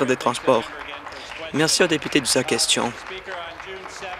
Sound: applause

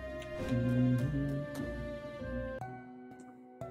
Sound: humming along

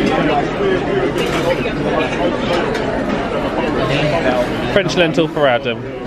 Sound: loud buzz of restaurant chatter

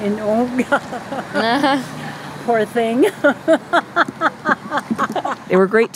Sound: laughs

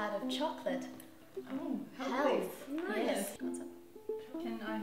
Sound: noises of approval

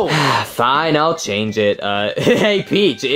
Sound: sigh

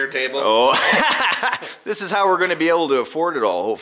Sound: laughs

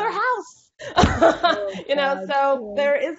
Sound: laughing

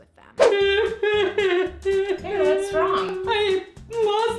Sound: crying

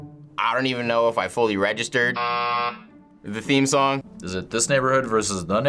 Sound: buzzer rings

